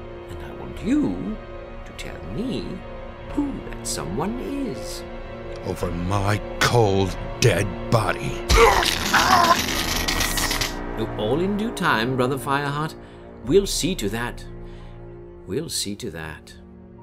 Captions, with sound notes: And I want you to tell me who that someone is. Only over my cold dead body. [BRZZZZT] Well, all in due time, Brother Fireheart. We'll see to that. We'll see to that.